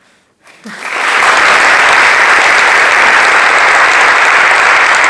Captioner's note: applause